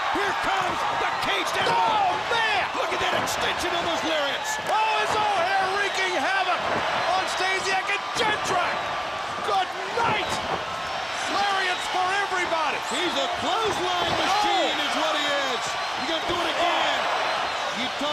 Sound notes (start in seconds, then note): 9.4 crowd cheering